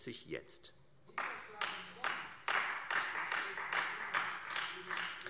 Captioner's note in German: Beifall Freie Demokraten